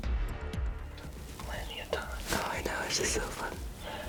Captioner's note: whispering